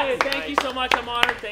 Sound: applause

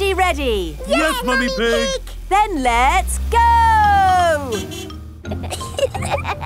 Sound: honking; giggling

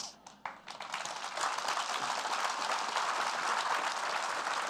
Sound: applause

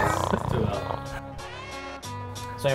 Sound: snore sounds

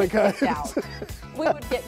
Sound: laughter

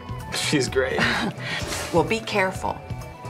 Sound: Colleen laughs

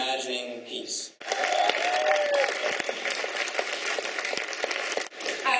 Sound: clapping

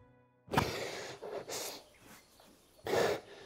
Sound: Fordwin gasping

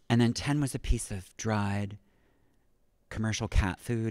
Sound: none

